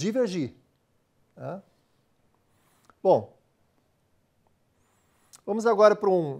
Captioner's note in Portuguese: pausa sonora